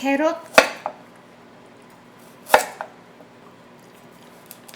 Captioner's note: knife chopping